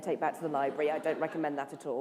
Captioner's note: laughter